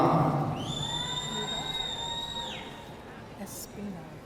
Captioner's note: audience cheering